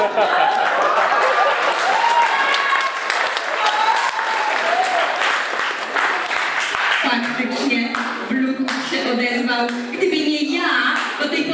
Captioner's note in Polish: Aplauz